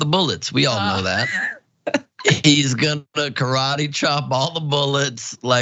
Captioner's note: laugh